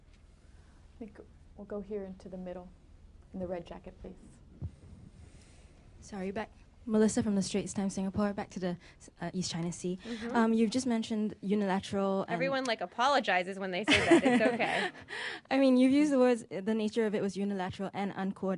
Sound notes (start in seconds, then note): 13.8 laughter